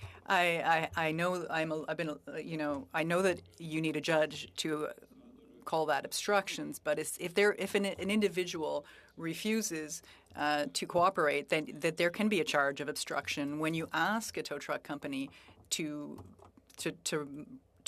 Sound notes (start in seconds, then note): 3.0 speaking French